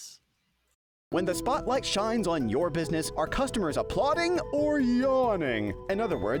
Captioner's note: voiceover